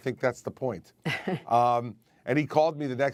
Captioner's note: laughter